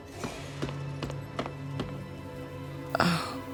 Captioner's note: footsteps tapping